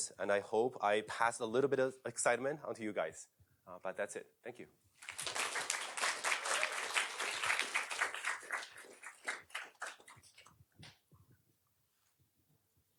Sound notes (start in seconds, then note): 5.0 applause